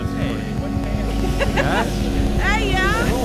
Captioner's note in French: rire